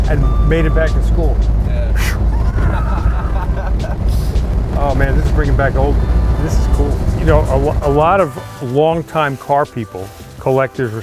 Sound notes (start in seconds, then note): 1.9 whistling; 3.6 laughing